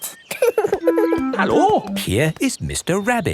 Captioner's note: laughing